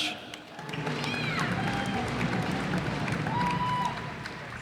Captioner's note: cheers and applause